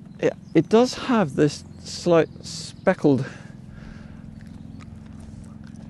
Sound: chewing

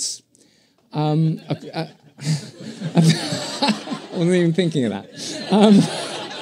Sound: laughter

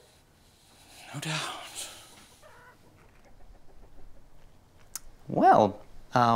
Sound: whispers

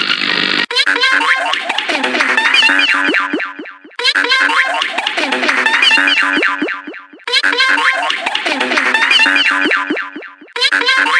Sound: bzzt; boop boing bonk echo

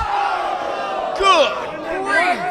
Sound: audience groans

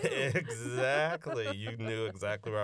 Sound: laughter

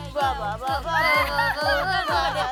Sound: giggling

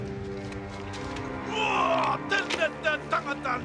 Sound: non-english speech

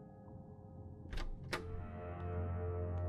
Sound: door opening

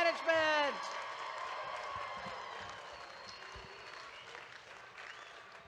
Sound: audience claps and cheers

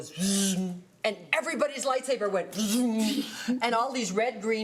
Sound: mimics light saber; mimics light saber

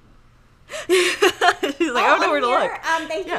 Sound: laughing

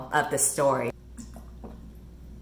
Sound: sipping

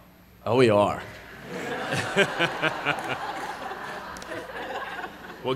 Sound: laughter

